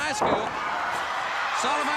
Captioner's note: crowd cheering